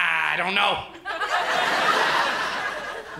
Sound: laughter

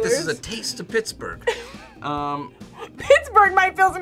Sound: laughs

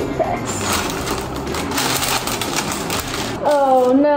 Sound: parchment paper crinkles

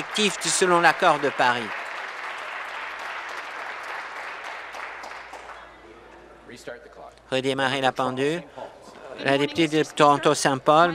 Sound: applause

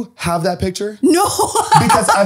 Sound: laughs

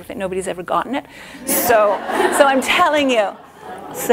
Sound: laughter

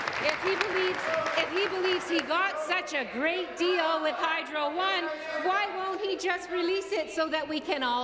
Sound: applause

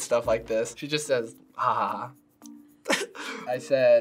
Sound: chuckles

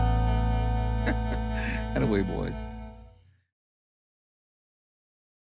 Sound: laughs

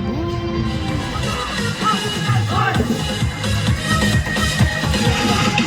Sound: shouting ‘fighting’~!!

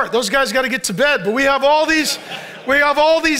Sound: congregation laughs

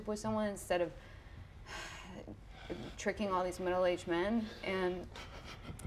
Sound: sighs

